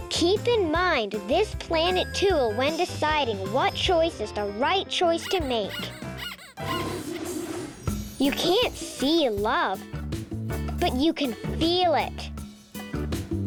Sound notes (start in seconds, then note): 5.2 squeaking